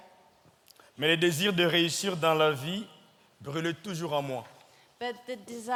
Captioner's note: speaking in French